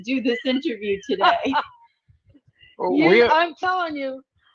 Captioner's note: laughing